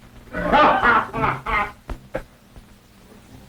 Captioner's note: Mose laughing